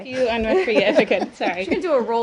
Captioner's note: laughter